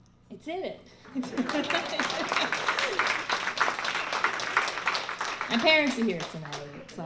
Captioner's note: laughter; audience applause